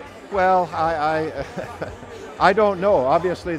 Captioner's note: laughing